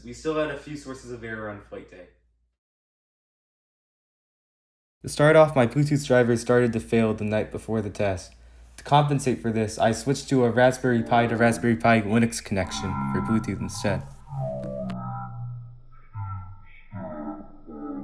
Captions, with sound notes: we still had a few sources of error on flight day. To start off, my Bluetooth drivers started to fail the night before the test. To compensate for this, I switched to a Raspberry Pi to Raspberry Pi Linux connection for Bluetooth and set. [DISTORTED SPEECH]